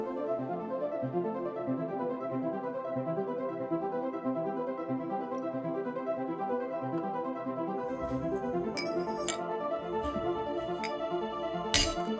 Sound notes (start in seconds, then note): 9.1 clanging